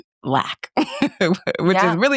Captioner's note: laughs